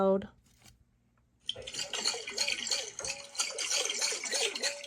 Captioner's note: water churns